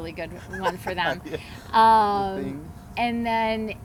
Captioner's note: laughs